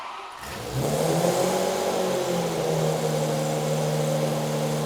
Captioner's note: engine roars